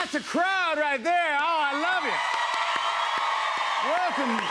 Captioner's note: cheers and applause